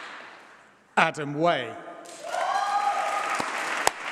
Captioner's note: applause